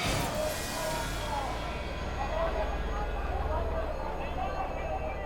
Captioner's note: crowd chattering indistinctly